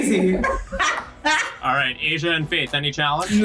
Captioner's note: laughs